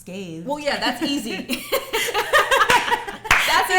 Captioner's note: laughter